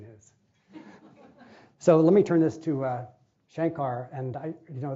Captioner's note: laughing